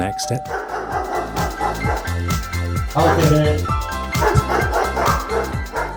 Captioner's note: doorbell; and dogs barking